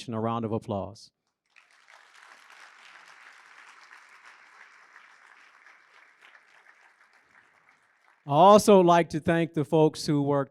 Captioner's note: applause